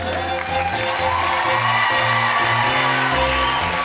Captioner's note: cheers and applause